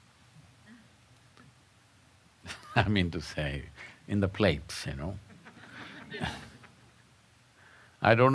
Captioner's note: laughs; laughter